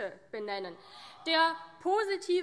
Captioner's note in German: Zurufe CDU: Ah!